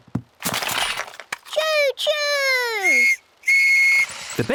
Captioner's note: blasts on whistle